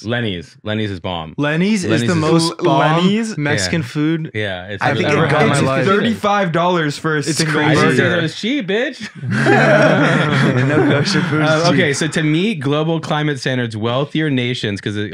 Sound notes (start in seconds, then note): 9.0 group laughing